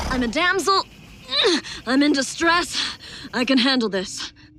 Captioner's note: grunts